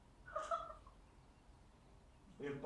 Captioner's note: Cathy laughing